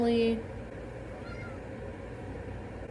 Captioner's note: meow